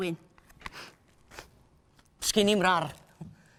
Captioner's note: sniffs